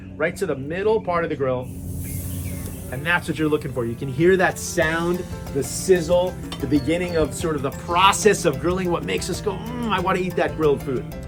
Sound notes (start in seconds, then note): 1.6 zucchini sizzles